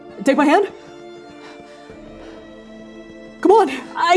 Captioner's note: breathing heavily